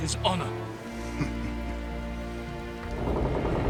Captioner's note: laughs